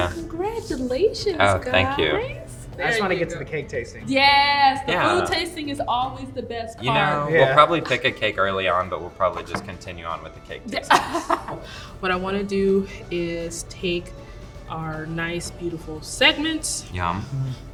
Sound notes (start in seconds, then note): 10.7 laughing